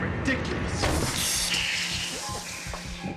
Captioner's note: can pops